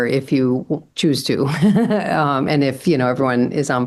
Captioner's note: laughs